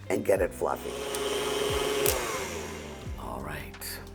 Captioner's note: stand mixer whirring